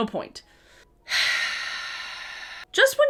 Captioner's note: sighs